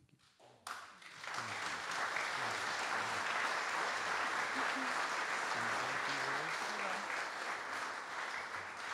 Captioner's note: audience Applause